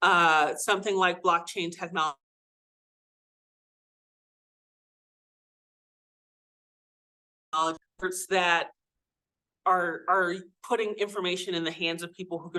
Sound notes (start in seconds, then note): 2.4 audio cuts out